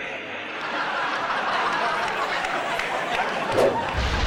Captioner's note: audience laughs